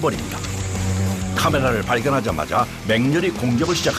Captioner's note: an Asian giant hornet makes a threatening sound and attacks